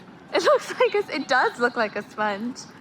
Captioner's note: laughs